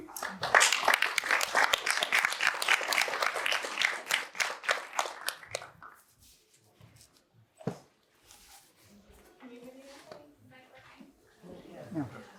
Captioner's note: applause